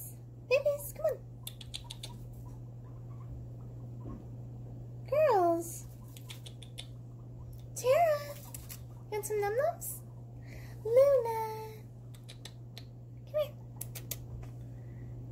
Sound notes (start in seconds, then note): 6.1 tch tch tch tch